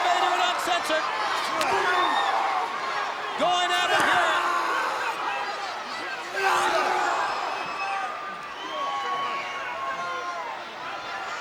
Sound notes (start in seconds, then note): 0.0 belt cracking; 3.6 wrestlers grunting; 4.8 Vader screaming; 6.3 crowd cheering